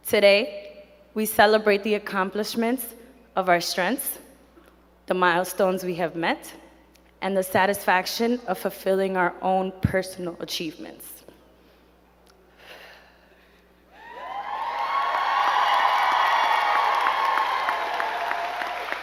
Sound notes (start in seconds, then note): 12.5 exhales; 13.9 crowd cheering and clapping